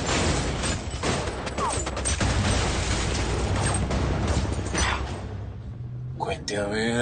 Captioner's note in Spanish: Disparos